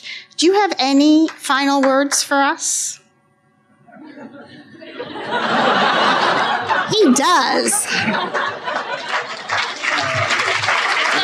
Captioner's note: laughter